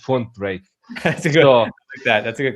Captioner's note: chuckles